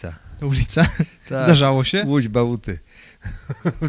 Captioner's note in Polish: śmiech